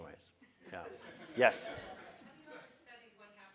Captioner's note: laugh